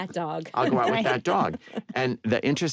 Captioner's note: laughter